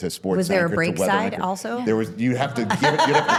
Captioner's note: laughs